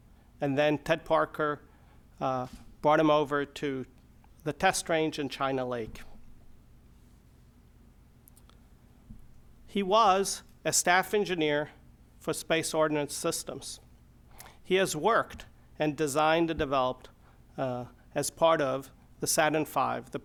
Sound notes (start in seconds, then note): none